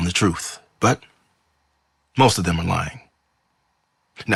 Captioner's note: none